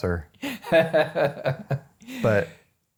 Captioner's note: laughing